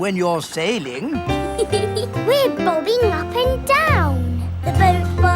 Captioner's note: giggles